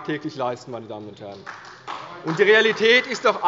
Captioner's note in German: Beifall bei der CDU